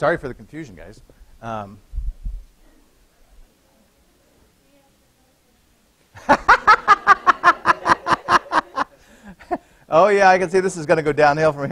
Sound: laughter

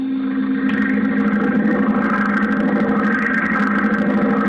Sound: biplane propeller noises

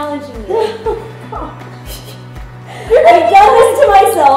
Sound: giggling

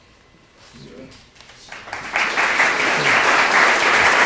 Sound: applause

